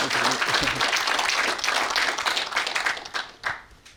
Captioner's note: audience applauding